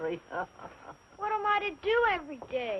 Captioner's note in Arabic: يضحك